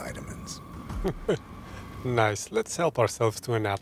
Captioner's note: laughs